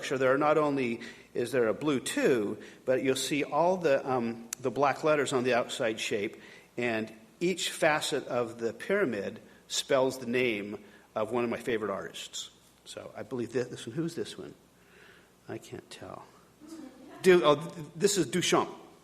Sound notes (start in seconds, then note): none